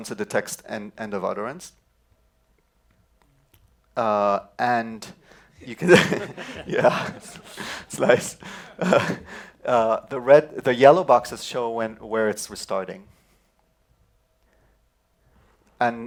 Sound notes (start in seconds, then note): 5.6 laughter